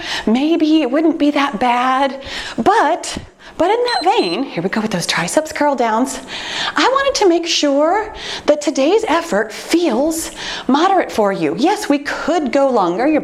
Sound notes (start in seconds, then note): 3.8 timer beeps